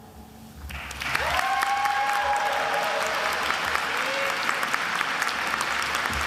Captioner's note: attendees applauding and cheering